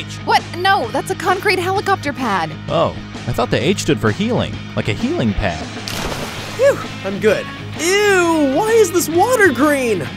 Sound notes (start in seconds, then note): 5.8 water splashes